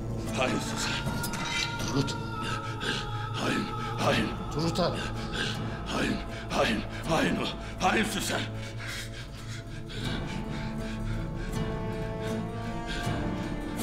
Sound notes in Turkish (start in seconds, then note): 4.9 Bamsı nefes sesi; 9.9 Bamsı nefes sesi